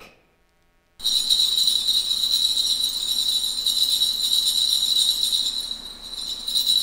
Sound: bells jingling

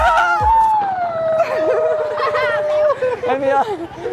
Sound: screaming

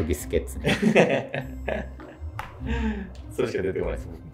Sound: laughing

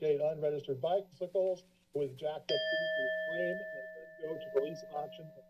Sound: bell sounds

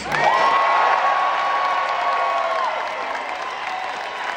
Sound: crowd cheering

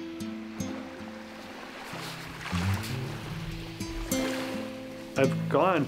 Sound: waves swelling and splashing

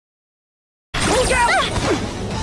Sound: zap

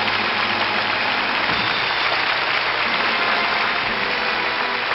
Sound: audience applauding

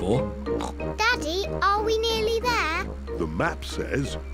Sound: snorts

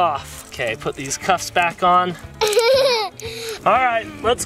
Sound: laughs

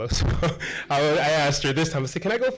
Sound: chuckles

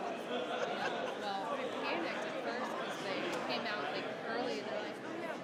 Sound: group chattering continue

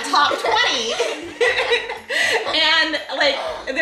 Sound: giggles

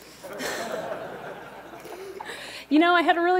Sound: laughter

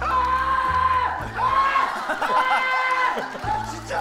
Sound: yelling

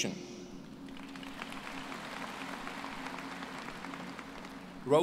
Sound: applause

